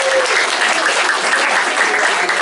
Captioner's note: applause